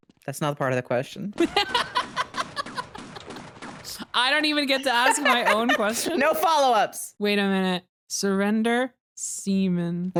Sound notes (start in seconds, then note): 1.4 laughs; 4.7 laughs